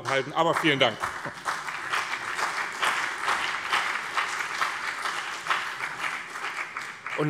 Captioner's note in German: Beifall BÜNDNIS 90/DIE GRÜNEN und CDU